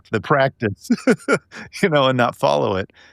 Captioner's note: laughing